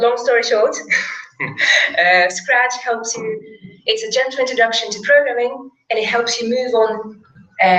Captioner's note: laugh